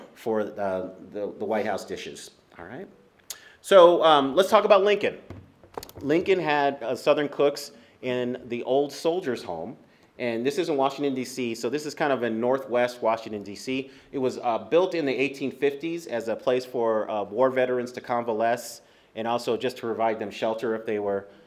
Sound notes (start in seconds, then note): none